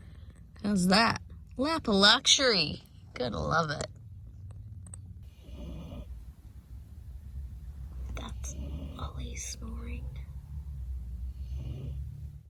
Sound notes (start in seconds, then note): 5.2 the dog snores; 8.0 whispers; 10.8 snores continue